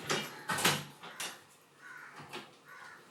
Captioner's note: birds cawing; door rattling; birds cawing